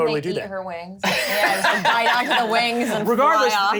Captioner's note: overlapping chatter